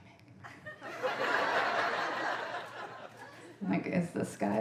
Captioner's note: audience laughing